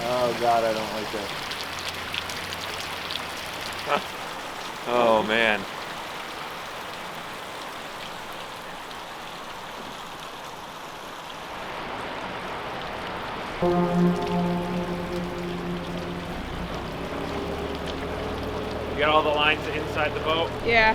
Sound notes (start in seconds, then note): 15.3 horn blasts